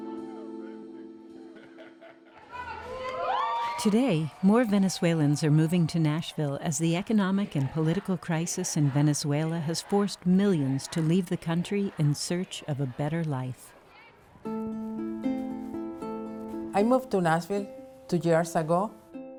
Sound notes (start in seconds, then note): 1.4 laughter; 2.3 cheering; 14.4 soft guitar music